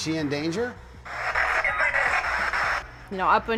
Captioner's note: spirit box voice